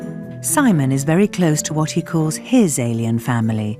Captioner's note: voiceover